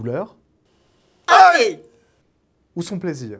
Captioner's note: ow